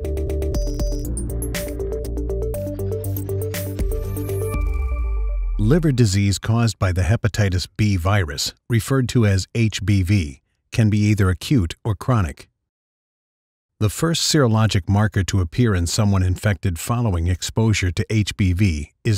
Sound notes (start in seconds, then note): 5.8 voiceover